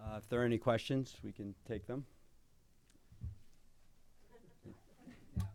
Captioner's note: chuckling